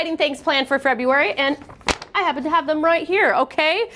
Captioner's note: paper snapping